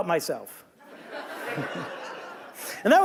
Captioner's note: audience laughing